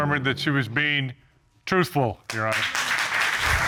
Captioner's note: applause